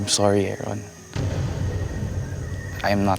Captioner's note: tense sound effect